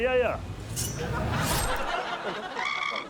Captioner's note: schling!; high-pitched squawk